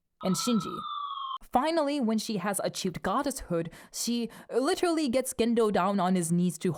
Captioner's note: wee-whoo wee whoo wee whoo